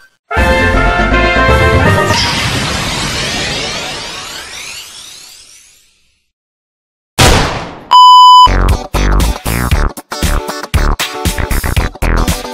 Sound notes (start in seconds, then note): 0.3 victory music; 7.2 gunshot; 8.6 disco music